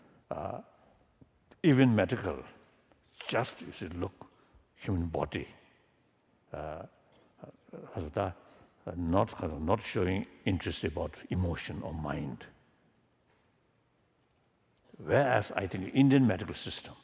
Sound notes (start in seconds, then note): none